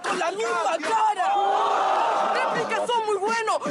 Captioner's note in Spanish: Gritos